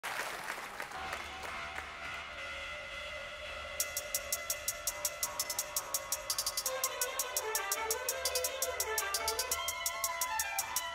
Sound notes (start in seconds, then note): 0.0 crowd applauding; 1.7 faint synthesizer music; 3.8 snare drum music